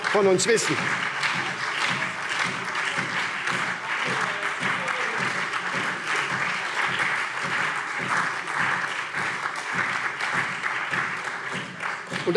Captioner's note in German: Lebhafter Beifall SPD